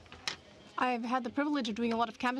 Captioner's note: speaking in french